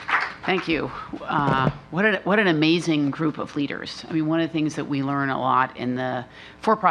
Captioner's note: applause